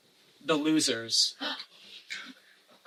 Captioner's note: gasp